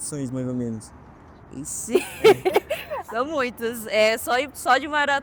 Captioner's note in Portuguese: risos